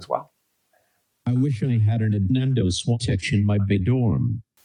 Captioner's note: AI speech